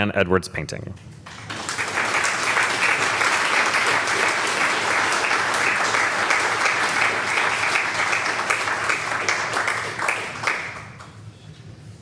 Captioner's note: applause